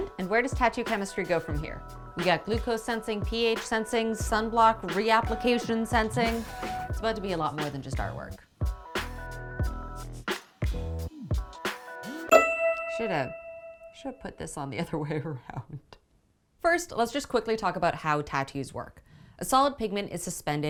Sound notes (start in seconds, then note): 12.3 ding sound